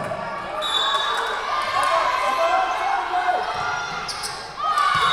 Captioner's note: whistle blowing